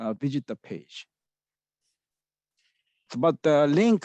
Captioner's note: pause